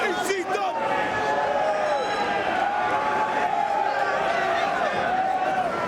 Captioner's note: spectators cheering